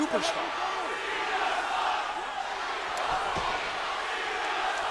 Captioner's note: blows thudding